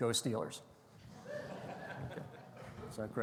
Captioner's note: audience laughing